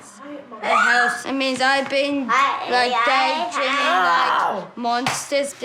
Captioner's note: child shrieks